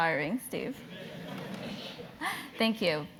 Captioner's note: laugh